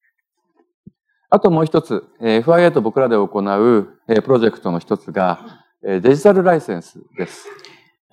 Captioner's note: speaking japanese